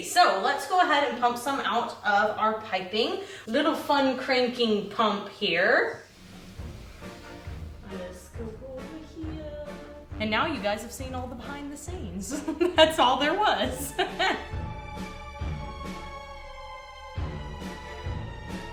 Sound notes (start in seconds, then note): 6.4 dramatic music; 15.0 laughs; 15.8 dramatic music